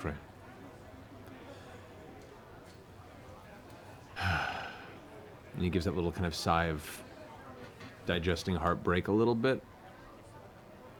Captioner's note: sighs